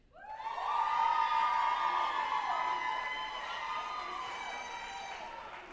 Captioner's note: group applauding and cheering